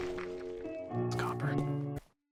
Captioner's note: whispered